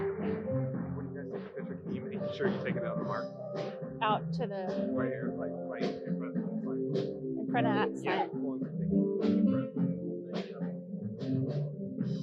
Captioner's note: applause